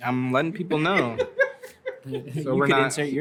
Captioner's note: laughter